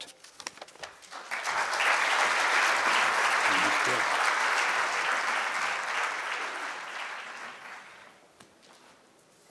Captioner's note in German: Applaus